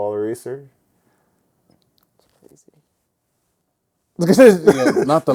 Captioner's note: laughing